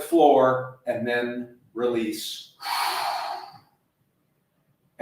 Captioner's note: exhaling